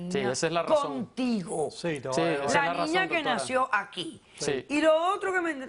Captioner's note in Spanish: Hablan al unísono